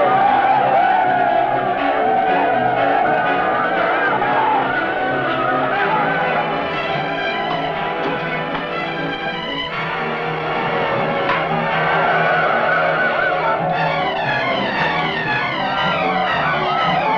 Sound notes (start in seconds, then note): 1.1 men shouting; 10.9 torches whooshing; 13.8 dramatic music